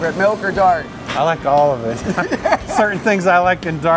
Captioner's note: laughs